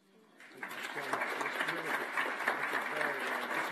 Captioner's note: applause